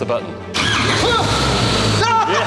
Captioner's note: engine starts